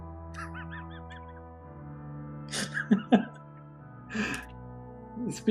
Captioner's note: laughs